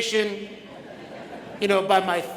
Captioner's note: audience laughs